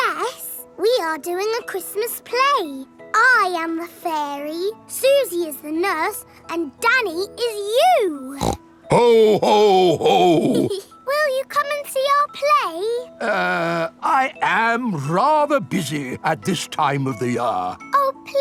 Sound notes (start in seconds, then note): 8.3 snorts; 8.9 giggles